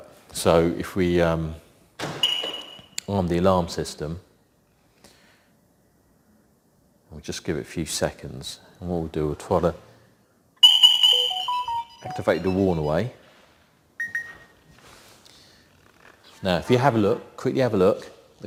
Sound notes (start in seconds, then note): 11.1 chirp chirp chirp